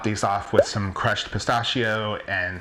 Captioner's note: popping